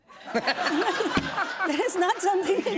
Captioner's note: laughter